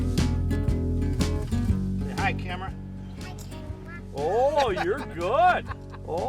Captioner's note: laughing